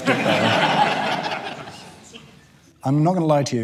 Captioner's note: audience laughter